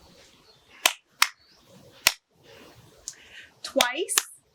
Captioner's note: hands clapping